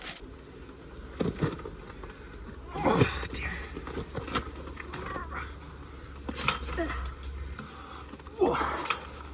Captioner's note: man groans